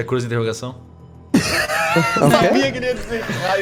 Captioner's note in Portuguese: risos